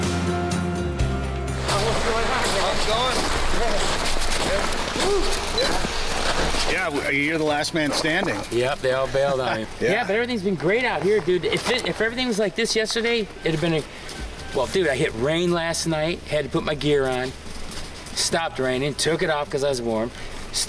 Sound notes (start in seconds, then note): 2.0 snow shuffling; 3.0 people chattering distantly; 9.7 participant chuckling